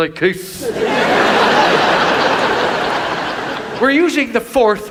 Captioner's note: audience laughs